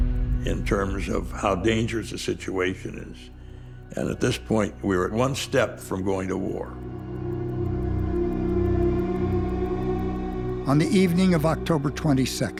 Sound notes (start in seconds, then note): 6.3 ticking continues; 6.5 music intensifies